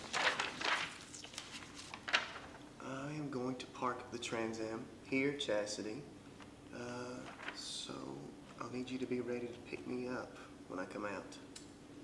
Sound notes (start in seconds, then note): none